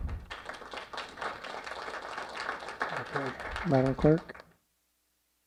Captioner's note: applause